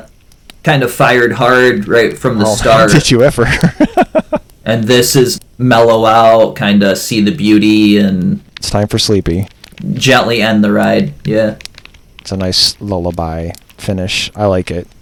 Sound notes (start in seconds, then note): 2.4 laughs